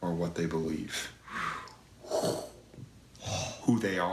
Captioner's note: gasps